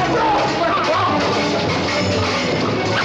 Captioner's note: ruffians shouting